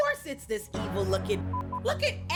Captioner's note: beep